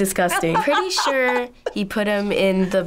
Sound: laughs

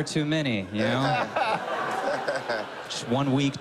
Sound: laughter

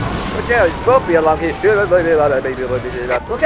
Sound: police Radio

